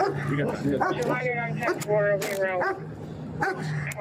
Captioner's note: radio chatter